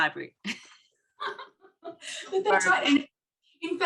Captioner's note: laughing